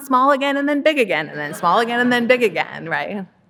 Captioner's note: audience laughing